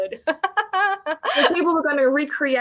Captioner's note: woman laughing